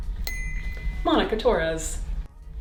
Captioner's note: bell dinging